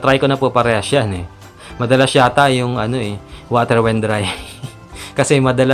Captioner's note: laughs